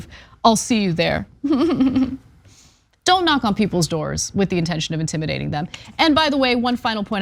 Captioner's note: laugh